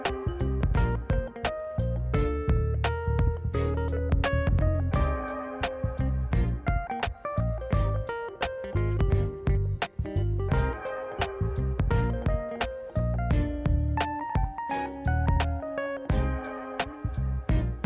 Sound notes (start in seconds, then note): 3.7 soft outdoor noises and crickets chirp